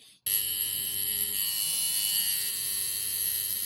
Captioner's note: machine whirring